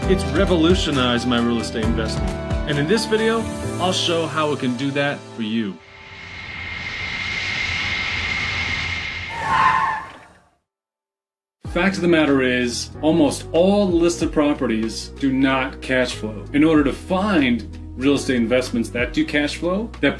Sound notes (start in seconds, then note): 9.3 vehicle howls